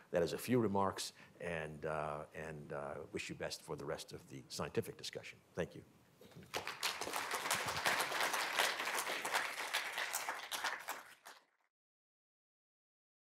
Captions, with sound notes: that is a few remarks, and I wish you best for the rest of the scientific discussion. Thank you. [APPLAUSE]